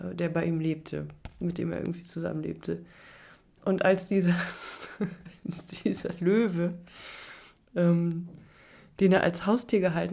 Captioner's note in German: gelächter